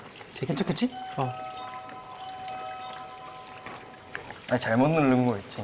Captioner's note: suddenly, the doorbell rings